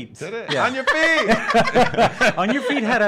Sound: laughing

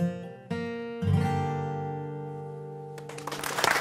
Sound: applause

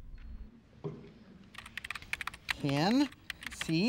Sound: keyboard keys clicking

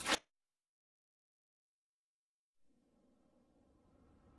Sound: silence

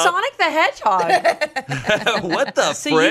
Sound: everyone laughs

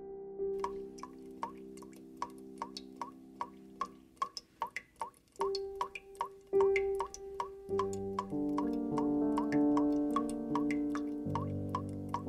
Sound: tap Drips

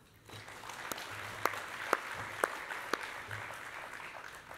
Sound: applause

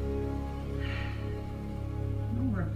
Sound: sigh

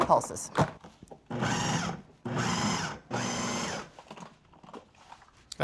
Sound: whirring

